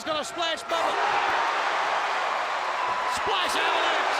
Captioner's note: crowd cheering